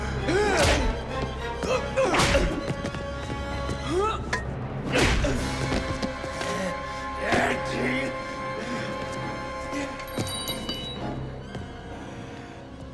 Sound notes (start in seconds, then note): 0.4 blows thudding; 4.2 Dalton grunts; 4.2 blows thudding; 7.9 Gammon growls; 7.9 tense music continues